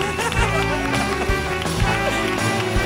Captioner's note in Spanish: risas